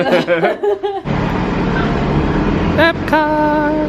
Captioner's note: both laugh